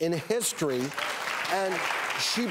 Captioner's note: clapping